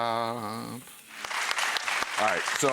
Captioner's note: audience claps